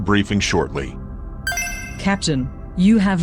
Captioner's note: chime